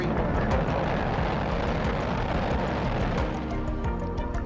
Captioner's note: Discovery roars into the sky